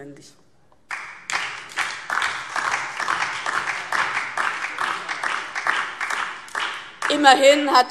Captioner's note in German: Beifall DIE LINKE